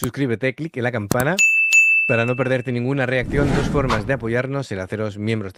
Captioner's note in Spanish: campana